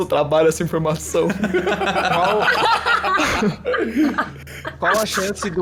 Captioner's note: laughing